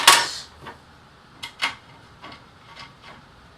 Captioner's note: small clank from screw being dropped